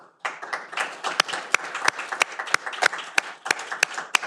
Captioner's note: audience applauding